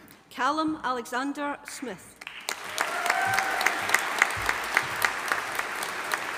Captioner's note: audience applauding